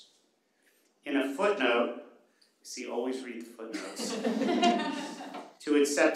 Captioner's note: laughter